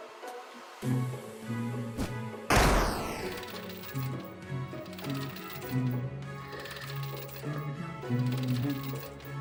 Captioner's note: humming along